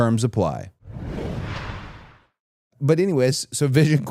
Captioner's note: rushing sound plays